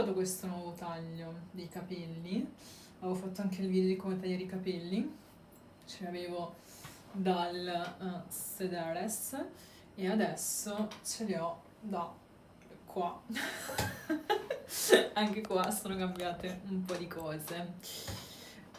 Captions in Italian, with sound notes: questo nuovo taglio di capelli. Avevo fatto anche il video di come tagliare i capelli. Ce li avevo dal sedere e adesso ce li ho da qua. [risate] Anche qua sono cambiate un po' di cose.